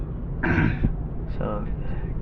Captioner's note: clears throat